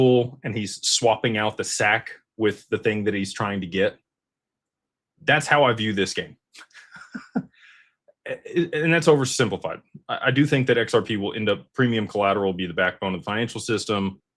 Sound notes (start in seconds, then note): 6.7 laughter